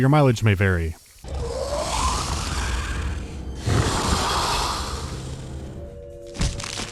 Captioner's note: compressed Alien hissing